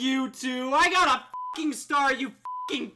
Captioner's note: beeps